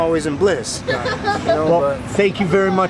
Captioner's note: female laughs